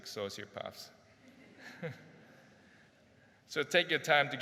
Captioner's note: crowd laughs gently